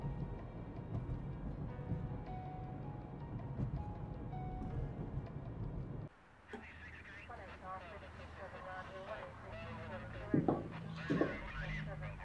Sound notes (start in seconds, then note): 6.4 police radio chattering